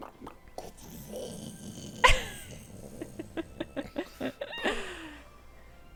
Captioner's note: laughing